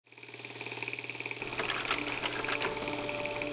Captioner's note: camera tape rolling; light inspirational music